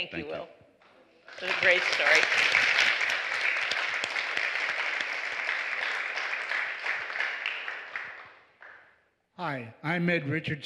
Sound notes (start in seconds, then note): 9.4 applause